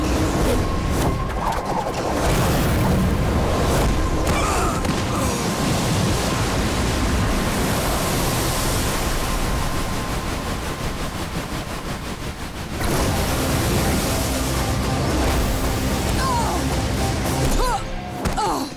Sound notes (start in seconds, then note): 3.9 groaning; 15.4 groaning